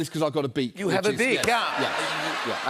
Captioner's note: laughter